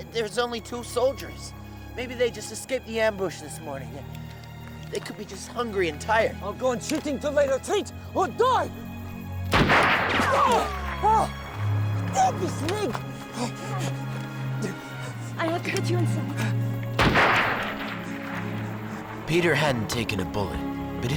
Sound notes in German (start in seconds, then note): 9.5 Gewehrfeuer; 10.2 Mann schreit; 17.0 Gewehrfeuer